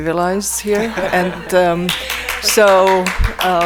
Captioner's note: all laughing; attendees applaud